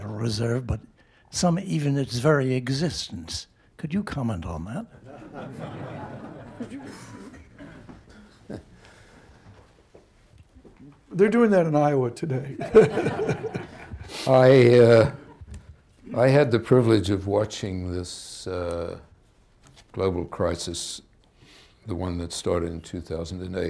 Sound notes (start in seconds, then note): 5.0 laughter; 12.6 laughter